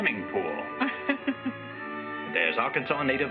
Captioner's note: laughs